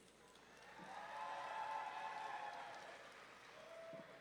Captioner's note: audience cheering